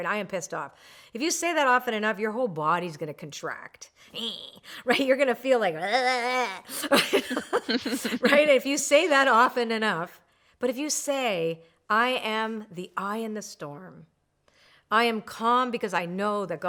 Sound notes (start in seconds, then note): 5.6 groans; 5.9 laugh